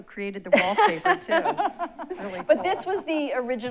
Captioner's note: laugh